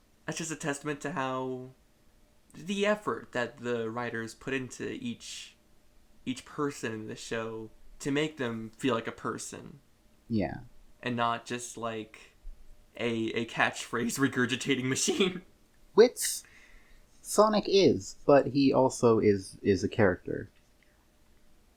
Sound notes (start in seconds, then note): 14.0 laughs